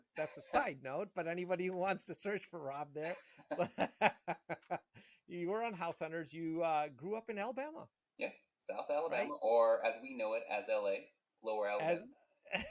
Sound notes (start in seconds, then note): 3.5 both laugh